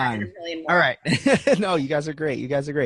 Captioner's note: laughing